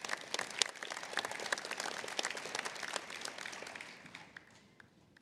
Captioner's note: applause